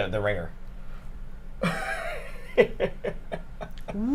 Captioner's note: chuckles